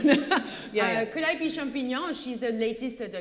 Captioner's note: french accent